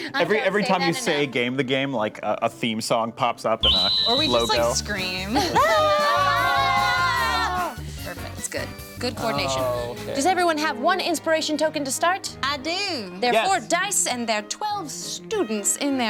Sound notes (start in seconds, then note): 5.5 all yell